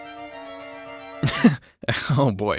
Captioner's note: laughs